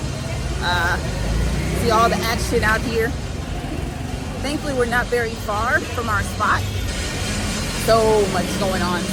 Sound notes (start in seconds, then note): 3.5 traffic buzzing